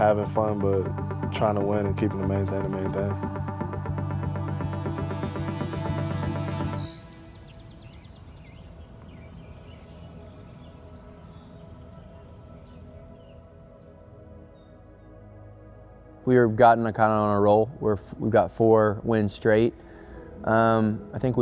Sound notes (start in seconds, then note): 3.7 upbeat music; 7.1 birds chirping; 7.1 gentle dramatic music